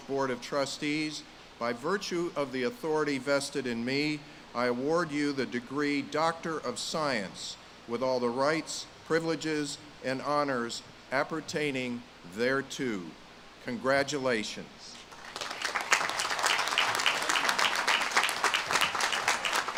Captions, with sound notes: Board of Trustees, by virtue of the authority vested in me, I award you the degree Doctor of Science with all the rights, privileges, and honors appertaining thereto. Congratulations. (audience claps)